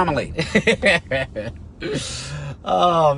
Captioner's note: driver laughs